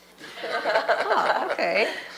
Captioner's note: laughter